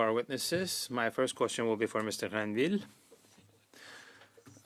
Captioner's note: speaking French